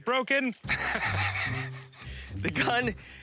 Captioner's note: laughs